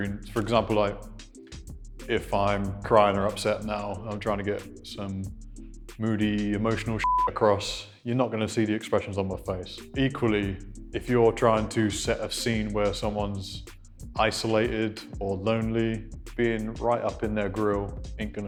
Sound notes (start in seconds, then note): 7.0 beep